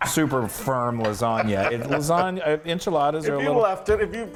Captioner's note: laugh